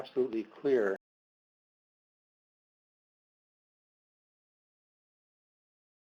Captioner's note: audio cuts out